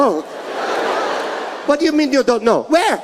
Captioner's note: audience laughing